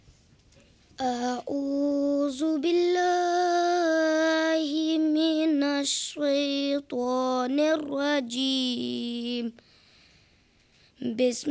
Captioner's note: recitation of the Quran in Arabic